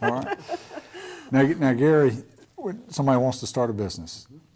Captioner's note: laughter